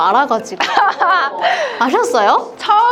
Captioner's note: laughter